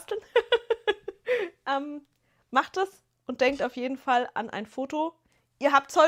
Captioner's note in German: gelächter